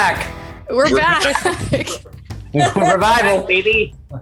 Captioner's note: laughs